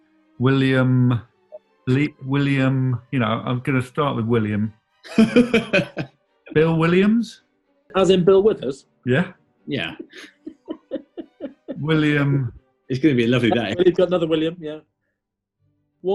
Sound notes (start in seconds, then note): 5.0 laughing; 9.7 giggling